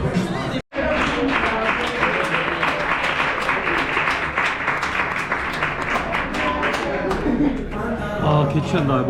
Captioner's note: customers applaud together as the owner kicks him out hahaha